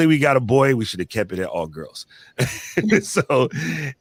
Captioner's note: laughs